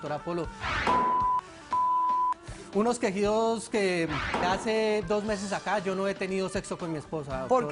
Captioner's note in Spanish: Bip